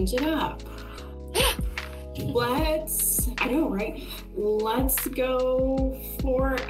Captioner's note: gasp